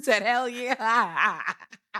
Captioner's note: laughing